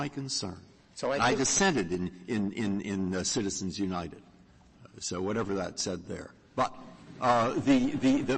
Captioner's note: laughter